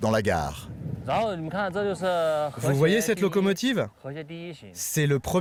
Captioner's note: speaking foreign language